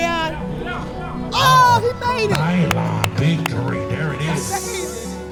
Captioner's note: clapping